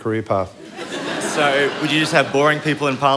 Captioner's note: laughter